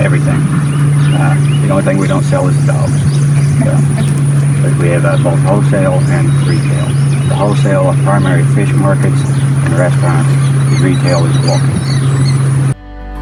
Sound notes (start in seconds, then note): 3.4 chuckling